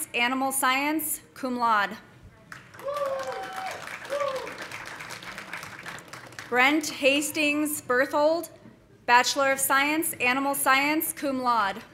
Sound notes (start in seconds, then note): 2.6 audience applauding; 2.8 audience cheering